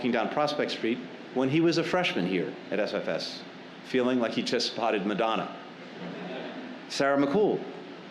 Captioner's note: laughter